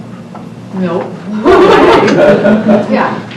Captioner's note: audience laughter